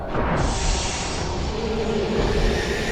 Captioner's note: air hissing; transitions whooshing